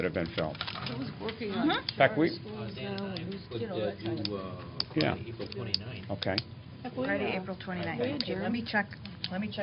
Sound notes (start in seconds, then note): 2.2 indistinct chatter